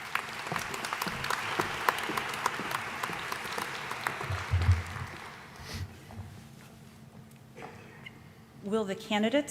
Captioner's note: applause